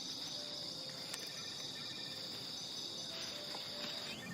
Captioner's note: cell phone ringing